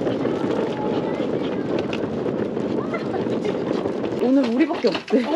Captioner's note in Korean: 우다다다다다다다다다다